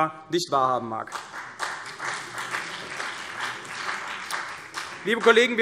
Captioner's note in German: Beifall CDU und vereinzelt BÜNDNIS 90/DIE GRÜNEN